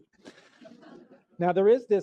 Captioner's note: laughter